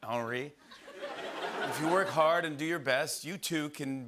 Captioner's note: laughter